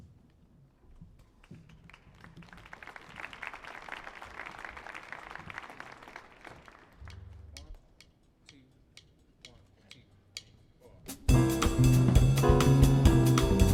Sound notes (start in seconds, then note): 1.6 audience applauding